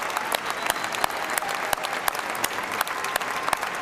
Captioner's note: cheers and applause